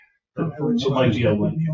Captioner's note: members chattering